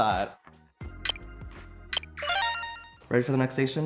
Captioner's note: beeping